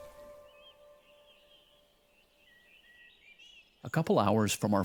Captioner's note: birds singing